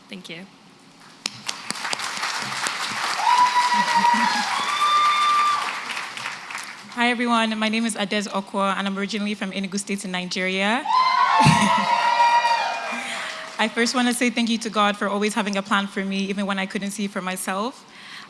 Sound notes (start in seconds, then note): 1.0 applause; 10.8 cheering